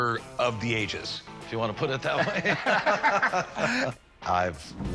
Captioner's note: laughter